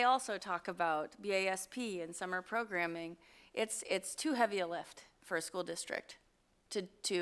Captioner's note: none